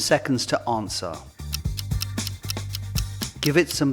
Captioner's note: ticking